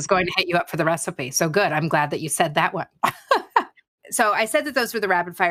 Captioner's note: laughs